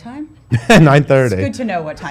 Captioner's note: laughs